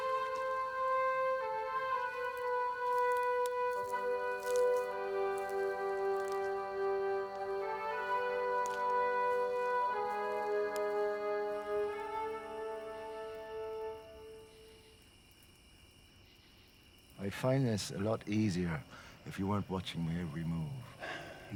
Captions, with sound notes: (grass crunching) (crickets chirping) - I'd find this a lot easier if you weren't watching my every move.